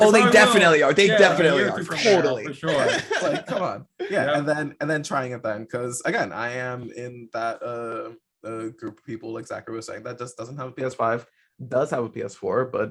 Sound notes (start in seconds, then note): 3.8 laughing